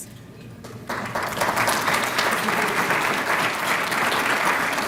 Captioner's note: applause